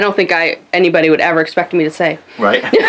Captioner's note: laughs